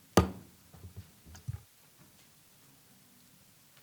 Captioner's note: gavel pounding